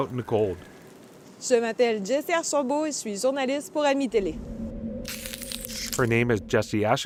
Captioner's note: speaking french